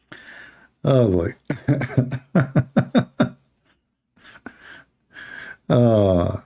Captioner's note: Ketawa